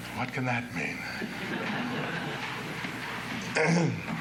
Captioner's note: laughter